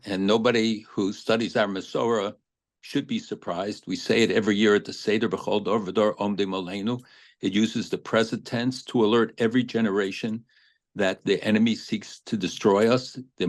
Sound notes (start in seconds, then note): 6.2 speaking hebrew